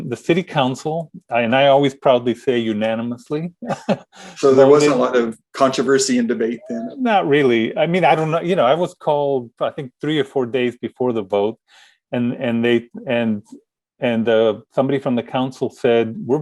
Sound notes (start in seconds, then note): 3.6 chuckling